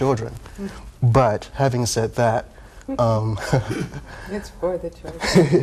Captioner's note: laughs